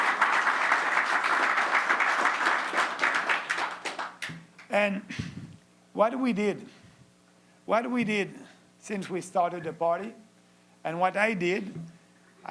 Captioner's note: applause